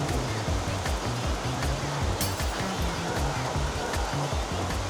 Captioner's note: laughs so hard because of he wipes out again